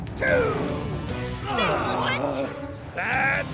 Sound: all groaning

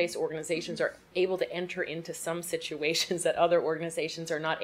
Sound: chuckles

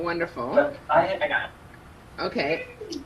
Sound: speaking faintly

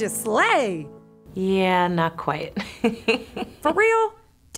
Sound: chuckling

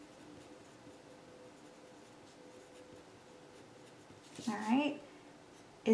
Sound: pen continues scribbling

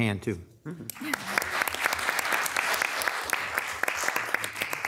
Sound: audience applauding

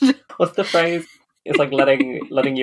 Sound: laughs

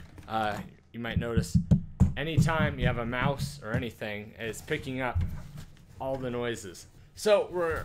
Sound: tapping

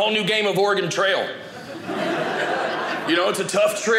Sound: audience laughing

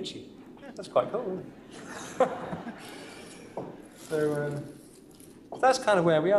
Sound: laughter

